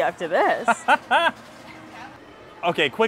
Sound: laughing

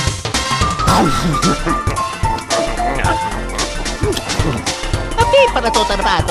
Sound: italian gibberish; all munching; italian gibberish

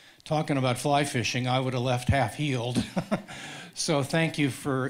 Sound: laughing

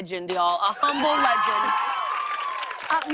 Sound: cheers and applause

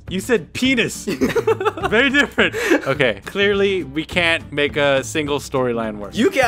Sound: laughs

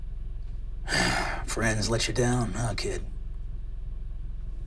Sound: sighs

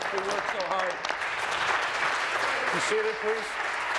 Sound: applause

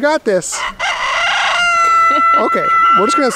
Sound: rooster crows

